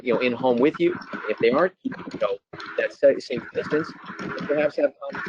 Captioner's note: static